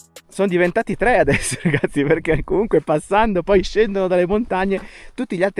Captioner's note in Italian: risate